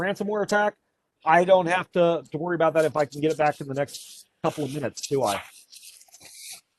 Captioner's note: rustling/tossing noises